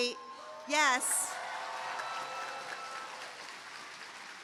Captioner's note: cheering, applause